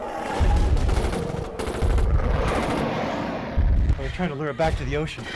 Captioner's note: guns firing